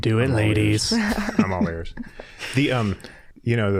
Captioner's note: all chuckling